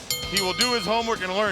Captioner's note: bell rings